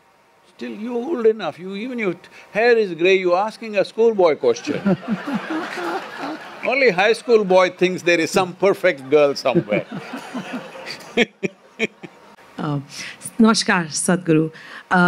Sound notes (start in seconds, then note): 4.5 laughter; 10.7 laughter